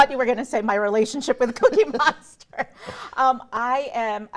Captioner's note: laughs